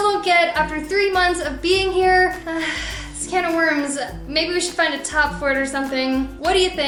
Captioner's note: gasp